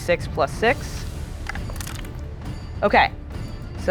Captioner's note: die rattling